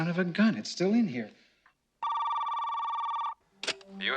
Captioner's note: phone ringing